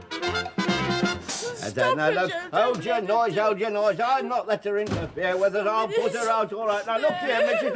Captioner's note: sobbing